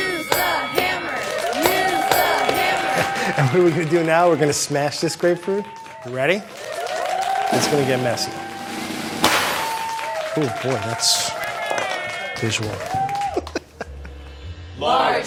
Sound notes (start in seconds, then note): 7.2 audience cheering; 13.2 laughs